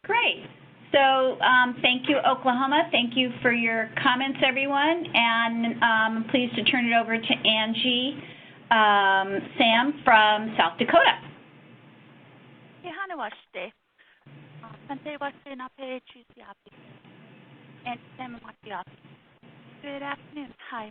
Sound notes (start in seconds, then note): 14.1 speaking in Dakota